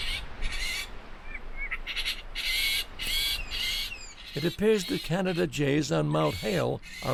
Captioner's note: bird calls